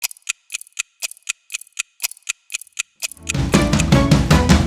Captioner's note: clock ticking; upbeat music